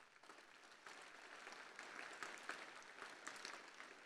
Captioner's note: applause